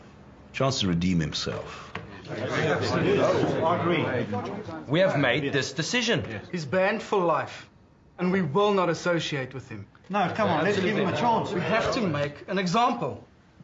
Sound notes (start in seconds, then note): 2.2 murmuring